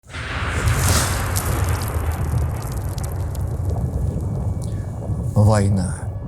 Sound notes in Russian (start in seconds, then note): 0.0 Звук взрывов; 2.9 Сирена тревоги